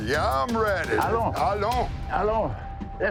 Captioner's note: both speaking French